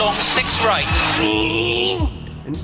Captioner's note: car sounds